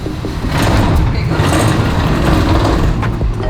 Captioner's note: scraping